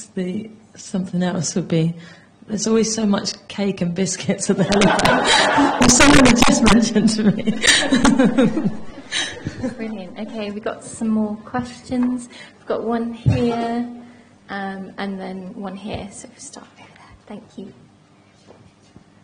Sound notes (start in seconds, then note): 4.6 laughter